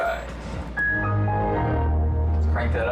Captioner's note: Windows shut down chimes